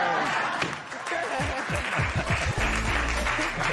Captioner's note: laughter and applause